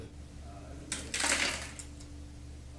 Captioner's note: rocks hitting the floor